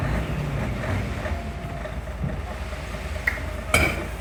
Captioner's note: loud truck sounds